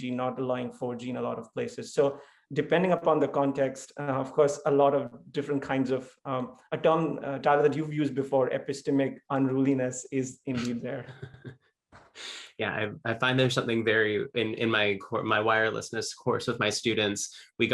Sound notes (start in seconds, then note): 10.5 laughs